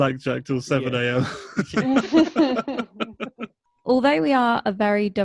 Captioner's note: laughs